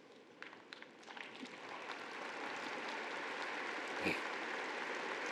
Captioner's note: audience applauding